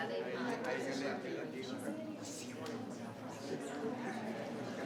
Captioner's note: people chattering